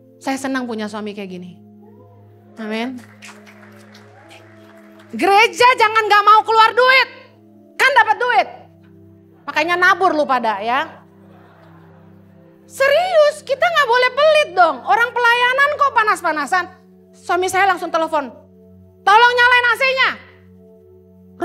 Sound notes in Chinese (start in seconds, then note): 2.4 会众鼓掌; 10.8 会众的笑声